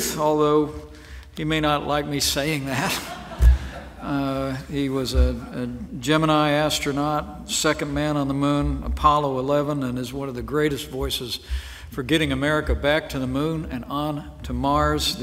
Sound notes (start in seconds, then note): 2.8 laughter